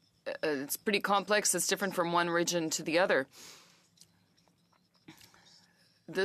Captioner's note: speaking French